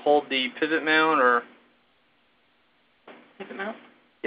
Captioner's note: pause